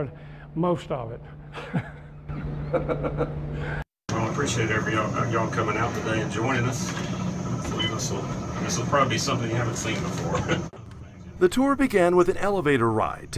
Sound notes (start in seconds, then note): 4.2 laughter